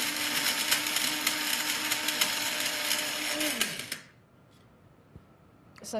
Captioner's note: spice grinder whirrs and stops